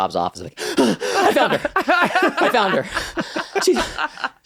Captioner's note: gasps